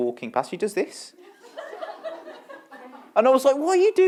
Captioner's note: laughter